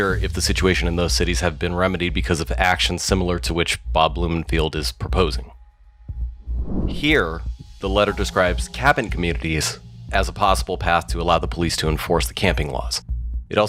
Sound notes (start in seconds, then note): 6.4 air whooshes